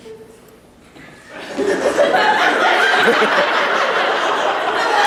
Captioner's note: laughter